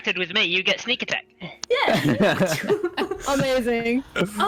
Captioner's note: chuckles